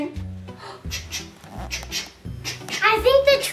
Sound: choo choo sounds

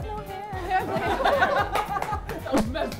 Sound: laughter

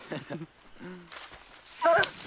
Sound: chuckles

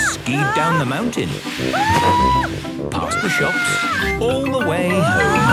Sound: screaming; exclaiming and grunting

